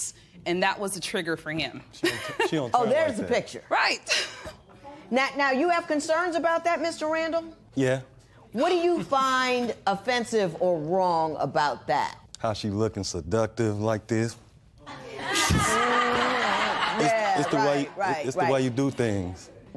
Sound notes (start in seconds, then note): 15.2 laughter